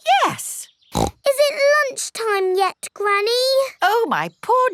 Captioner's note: snorts